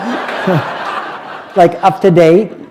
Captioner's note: laughter